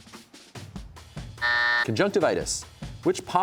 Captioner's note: buzzer sounds